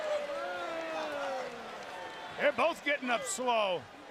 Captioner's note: crowd chatter